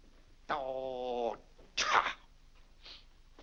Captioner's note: grumbling